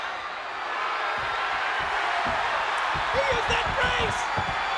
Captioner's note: audience cheering